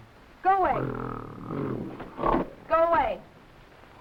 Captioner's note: gorilla grunting